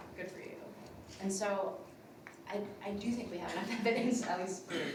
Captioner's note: laughs